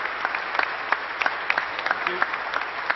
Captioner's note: applause